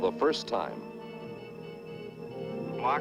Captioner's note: device beeping